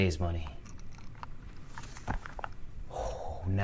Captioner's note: stones clattering